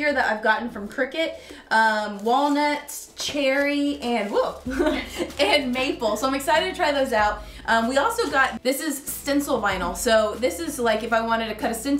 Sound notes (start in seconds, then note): 4.6 both laughing